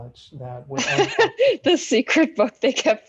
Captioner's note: laughter